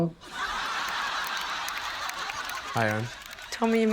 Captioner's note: laughter